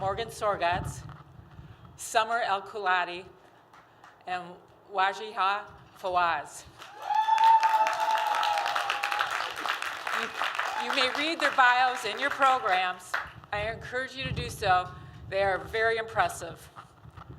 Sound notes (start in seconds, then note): 6.7 applause